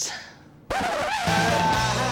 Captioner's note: record scratches